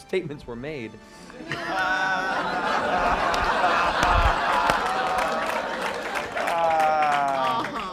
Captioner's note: laughter